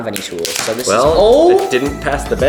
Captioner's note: plastic cracking